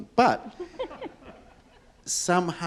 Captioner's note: audience and panelists chuckle